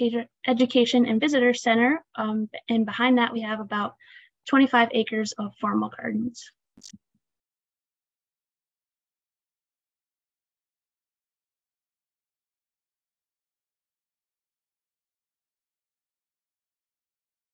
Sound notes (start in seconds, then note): 9.9 short pause